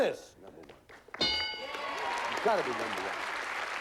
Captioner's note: applause